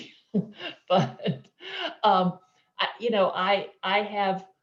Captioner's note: chuckling